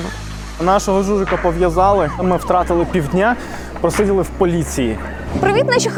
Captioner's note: a drone